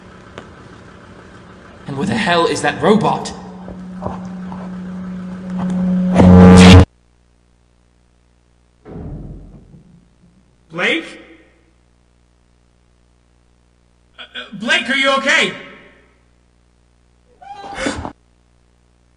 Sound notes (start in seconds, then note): 8.8 distant crashing sound; 17.3 Blake screams from within chamber